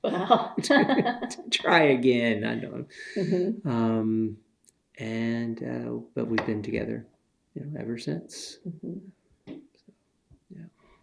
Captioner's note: laughter